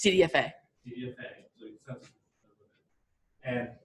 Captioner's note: audio fading